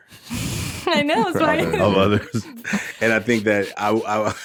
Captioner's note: laughs